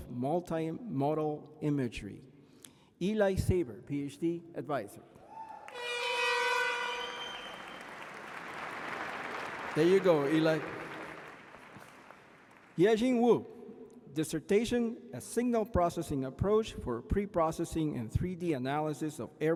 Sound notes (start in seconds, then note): 8.0 applause